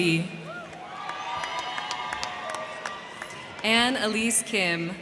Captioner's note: crowd cheering; crowd clapping